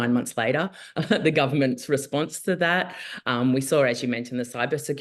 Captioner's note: chuckles